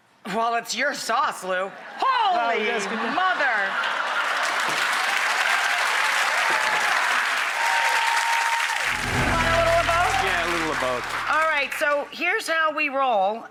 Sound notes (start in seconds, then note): 2.3 laughter; 5.4 applause